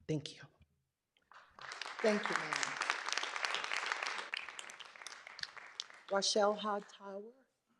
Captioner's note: clapping